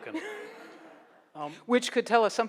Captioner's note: laughs